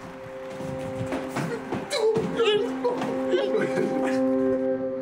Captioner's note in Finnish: iloisia ääniä